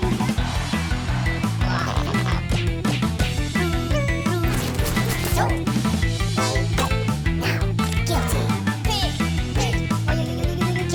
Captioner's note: cheering